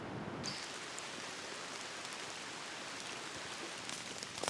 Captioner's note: wind blowing; heavy rain; footsteps crunching leaves